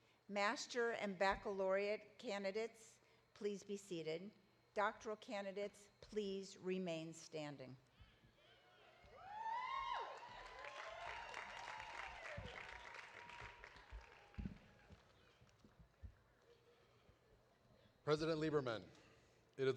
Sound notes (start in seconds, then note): 8.9 audience cheering; 9.4 audience applauding